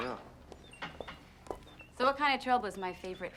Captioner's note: heels clicking